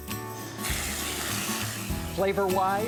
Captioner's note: whip cream hissing